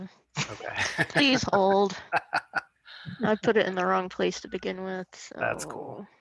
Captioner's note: laughter